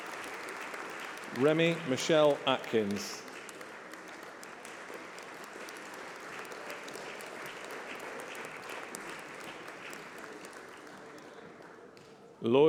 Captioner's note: applause